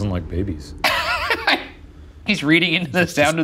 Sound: laughing

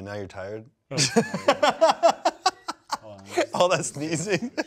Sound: laughs

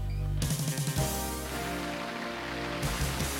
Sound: applauding

